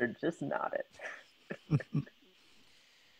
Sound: the men laugh

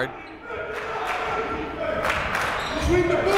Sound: clapping

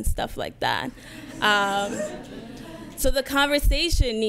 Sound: audience laughs

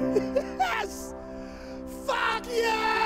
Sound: laughs

